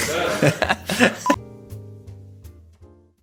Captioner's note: laughs